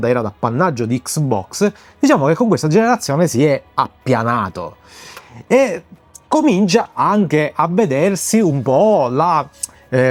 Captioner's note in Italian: sbuffare